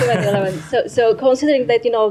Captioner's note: laughter